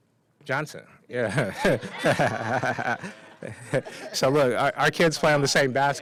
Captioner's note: laughter